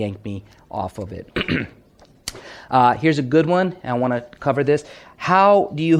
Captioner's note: clears throat